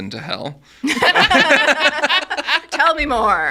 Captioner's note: all laughing